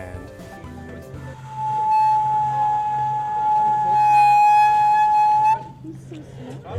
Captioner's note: whistling; trumpeting